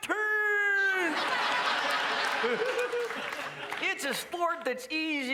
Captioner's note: crowd laughs